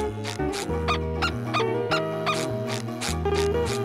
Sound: squeaking

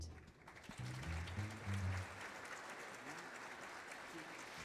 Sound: audience applauds

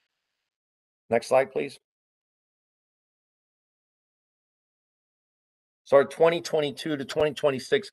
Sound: A pause

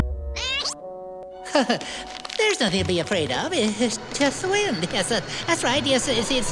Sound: nervous Laughing

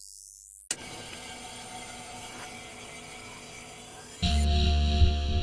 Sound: a click, then static

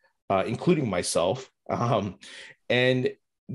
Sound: laughs

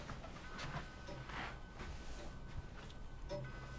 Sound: clock chimes

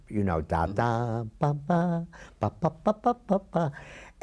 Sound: hums tune

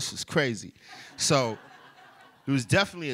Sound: laughter

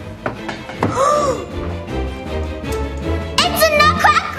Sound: gasps

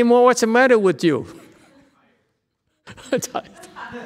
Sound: laughs

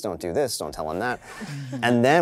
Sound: participants chuckling

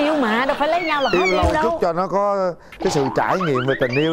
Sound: laughing

